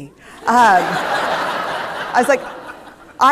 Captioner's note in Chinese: 笑聲